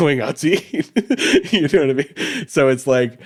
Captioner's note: laughs